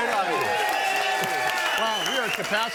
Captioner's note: audience cheering and applauding